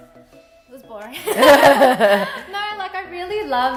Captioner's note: laughing